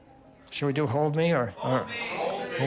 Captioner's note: crowd